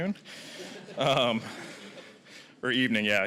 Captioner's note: audience laughing